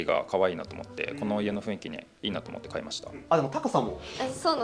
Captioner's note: laughs